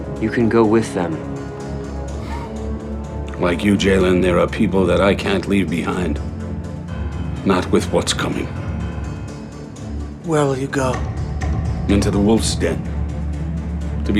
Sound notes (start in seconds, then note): 2.3 chuckling